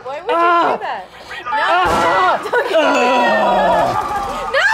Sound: screaming

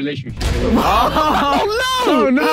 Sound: Harry laughing

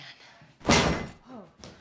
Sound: loud bang

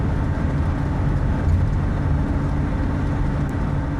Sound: truck accelerating

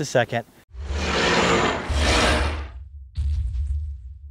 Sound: dinosaur roaring

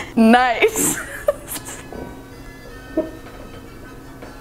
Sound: laughing

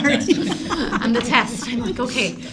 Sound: laughter

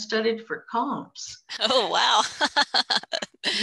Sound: laughs

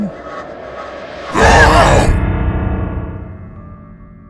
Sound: music intensifies; growl; scream

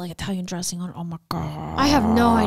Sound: growls

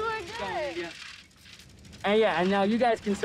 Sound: group chattering

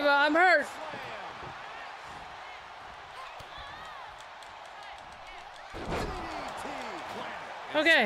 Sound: applause

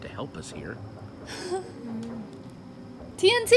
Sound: Sabrina laughs

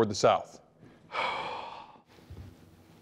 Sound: sigh

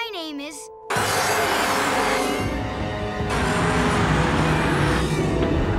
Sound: screeching

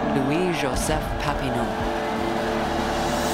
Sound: cheering

